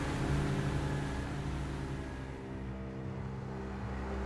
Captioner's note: truck rumbling